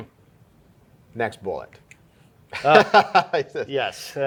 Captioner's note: laughing